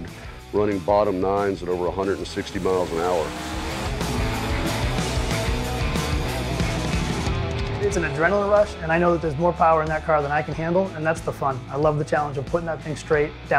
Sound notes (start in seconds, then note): 4.2 car engines roaring; 4.2 rock music